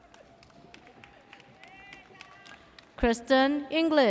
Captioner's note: audience applauds